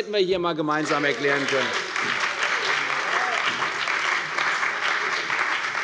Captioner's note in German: Beifall bei der CDU und dem BÜNDNIS 90/DIE GRÜNEN